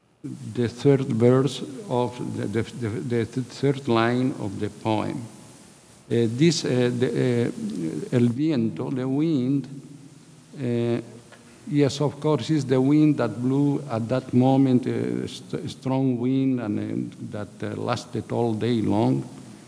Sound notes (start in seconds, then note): 6.7 speaking in a foreign language